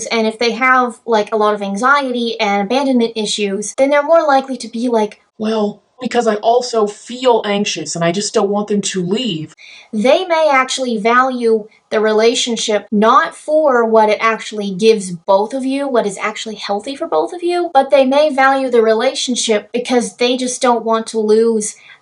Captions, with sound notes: and if they have, like, a lot of anxiety and abandonment issues, then they're more likely to be, like, *low-pitched voice* "Well..." "...Because I also feel anxious and I just don't want them to leave..." They may actually value the relationship not for what it actually gives both of you, what is actually healthy for both of you, but they may value the relationship, because they just don't want to lose